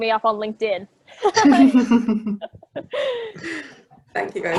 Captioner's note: laughs